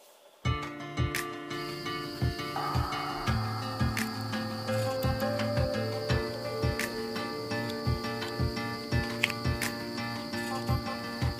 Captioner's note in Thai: ปรบมือ